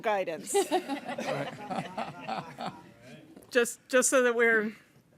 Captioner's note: audience laughing